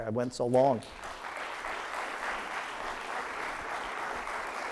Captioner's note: audience applauds